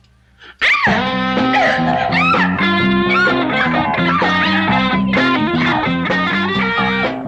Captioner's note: Cheryl yelps; loud rock music